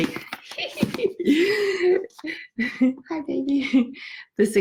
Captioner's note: giggles